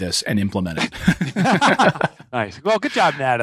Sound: laughter

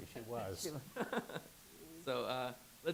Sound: laughs

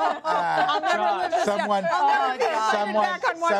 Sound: laughter

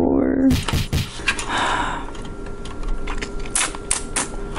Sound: big sigh

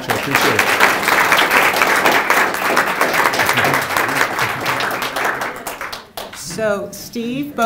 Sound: applause

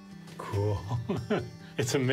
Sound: laughs

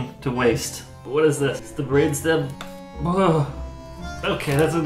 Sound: sound of disgust

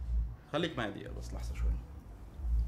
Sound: in Arabic

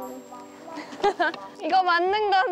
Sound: hahaha

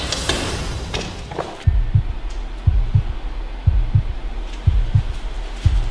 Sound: heartbeat pounding

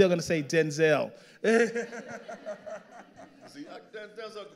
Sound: all laughing

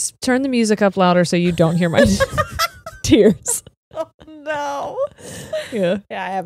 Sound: laughs

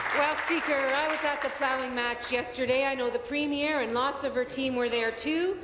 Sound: applause

